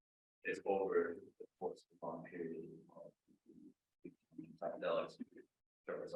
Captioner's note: speaking faintly